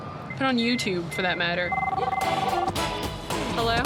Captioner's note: phone ringing